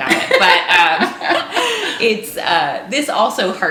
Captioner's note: laughing